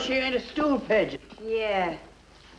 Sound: none

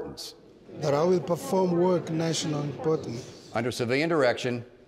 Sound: crowd

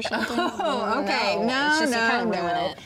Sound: laughs

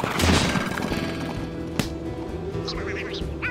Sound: chattering

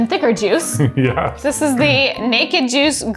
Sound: chuckling

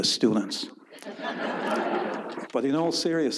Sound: audience laughs

